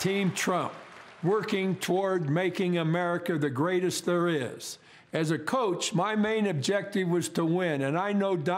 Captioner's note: cheering and applause